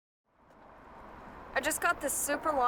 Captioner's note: faint traffic noise